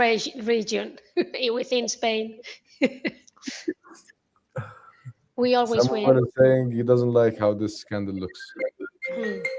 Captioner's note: laughter